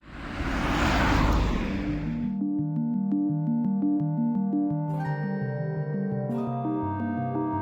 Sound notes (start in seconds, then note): 0.0 car driving; 1.8 upbeat music